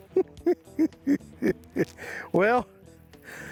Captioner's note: chuckling